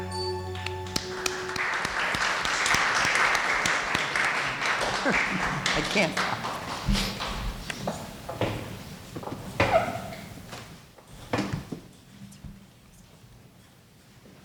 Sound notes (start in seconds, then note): 0.5 applauding; 4.9 murmuring